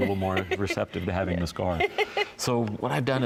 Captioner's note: laughing